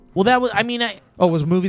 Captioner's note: stammers